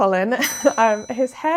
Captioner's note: bell ringing